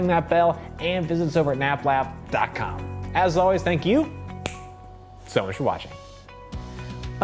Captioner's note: snaps fingers; outro music